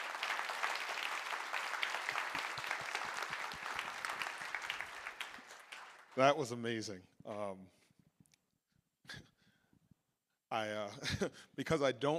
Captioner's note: applause